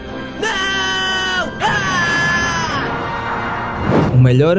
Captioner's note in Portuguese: grito